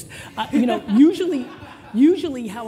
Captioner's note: laughter